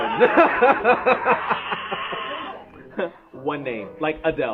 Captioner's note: laughing